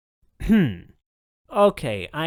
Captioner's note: clears throat